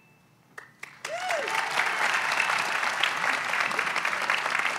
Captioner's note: audience applauds